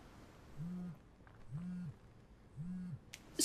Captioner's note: phone ringing